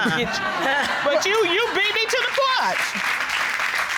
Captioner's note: chuckles; audience applauds